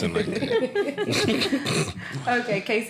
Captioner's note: laughter